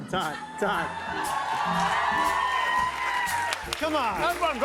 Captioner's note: cheers and applause